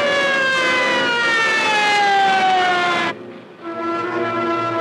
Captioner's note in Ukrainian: сирени кричать